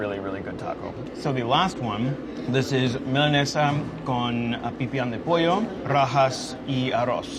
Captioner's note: speaking in foreign language